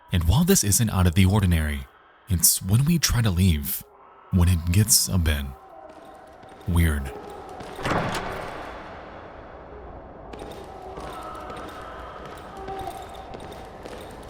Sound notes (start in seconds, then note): 7.5 wailing continues; 7.6 door opens